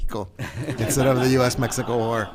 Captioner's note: all laughing